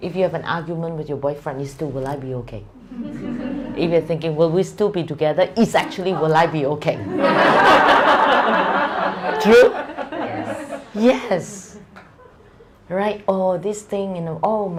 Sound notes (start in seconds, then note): 9.9 audience laughter